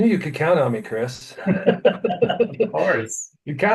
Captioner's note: laughing